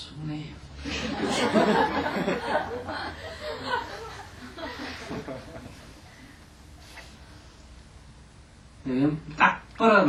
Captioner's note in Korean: 청중 웃음